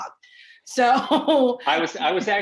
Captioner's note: laughs